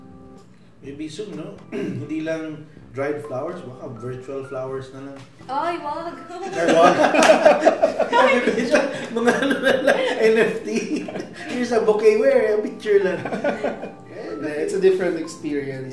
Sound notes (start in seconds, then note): 6.3 laughs; 13.7 laughs